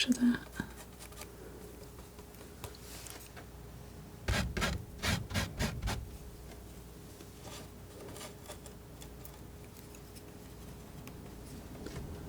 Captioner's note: scratching